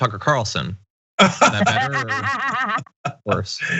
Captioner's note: laugh